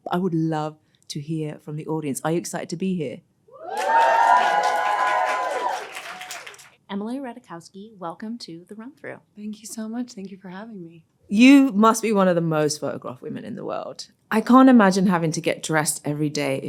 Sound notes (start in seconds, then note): 3.6 audience cheering and applauding